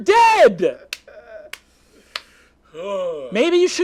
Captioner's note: clapping